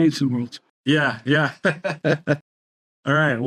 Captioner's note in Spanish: risas